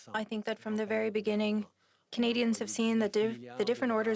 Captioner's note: speaking French